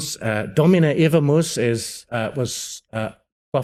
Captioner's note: speaking Latin